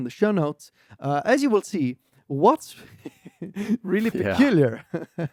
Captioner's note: laughs